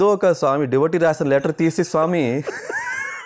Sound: laughs

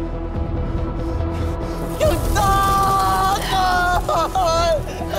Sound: screaming

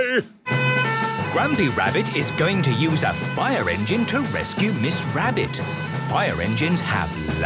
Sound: sirens

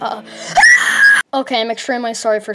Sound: screaming

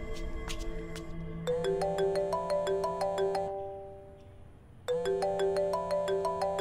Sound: phone ringing

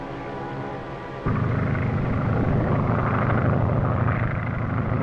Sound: engine droning

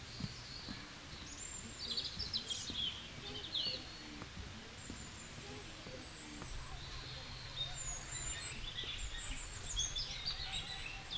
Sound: sound of nature

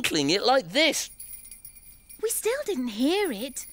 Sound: bell faintly jingles

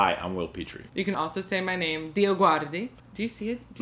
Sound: with Italian accent and a soft g

